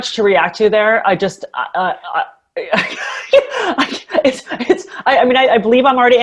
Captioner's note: laughs